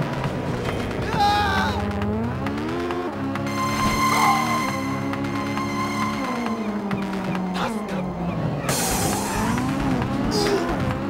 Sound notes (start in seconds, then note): 1.1 pedestrian screaming